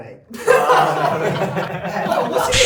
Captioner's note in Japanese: 笑い声